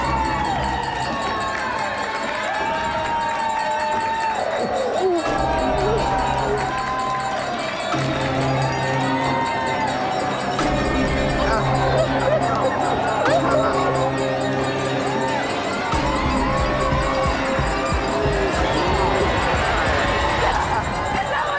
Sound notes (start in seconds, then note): 0.0 frenzied crowd cheering; 0.3 tense music; 10.7 swelling tense music; 11.2 sobbing; 12.3 swelling tense music